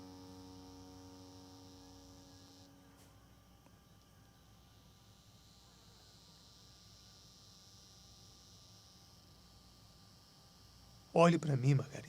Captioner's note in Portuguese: cigarras